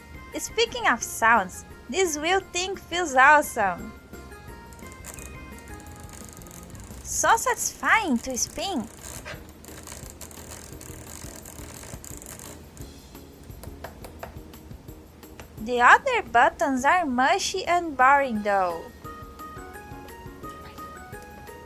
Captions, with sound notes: Speaking of sounds, this wheel thing feels awesome! *happy clicky noises* So satisfying to spin! *more happy clicky noises* *click* *click* The other buttons are mushy and boring though...